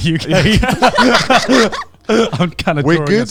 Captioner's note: everyone laughing